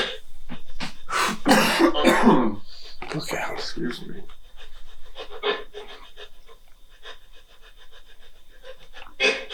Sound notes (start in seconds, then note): 0.8 coughing